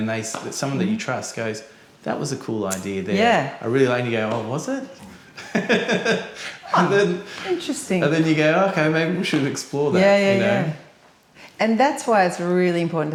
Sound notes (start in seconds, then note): 5.1 laughs